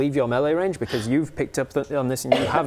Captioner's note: gasp